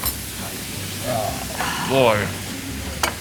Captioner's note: dishes sizzling